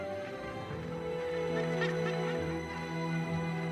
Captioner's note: squawking